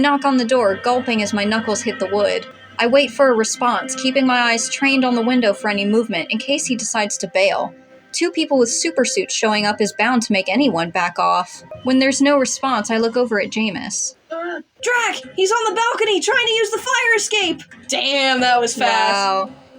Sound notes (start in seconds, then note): 14.3 Bingo Grunts